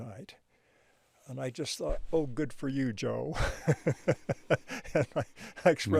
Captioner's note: chuckles